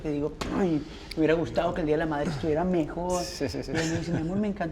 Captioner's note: laughter